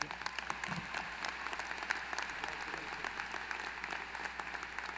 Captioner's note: applause